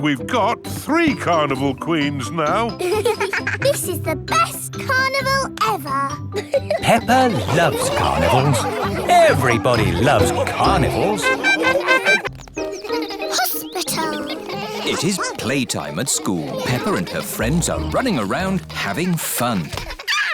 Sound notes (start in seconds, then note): 3.3 both giggling; 11.6 laughing; 12.3 school bell rings